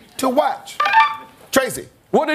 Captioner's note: bell rings